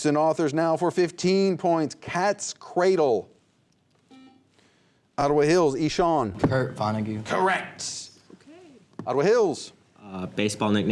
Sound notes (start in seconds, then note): 4.1 buzzer